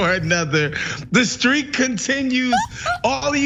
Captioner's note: laugh